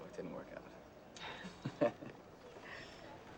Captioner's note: giggles